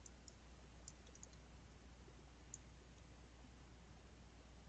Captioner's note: mouse clicking